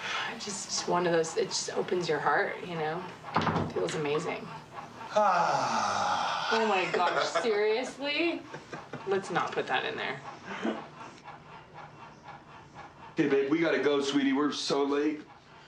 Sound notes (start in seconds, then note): 6.6 Risos